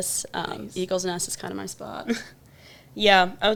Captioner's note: chuckles